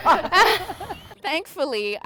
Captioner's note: laughter